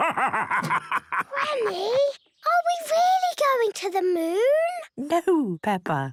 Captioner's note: whispers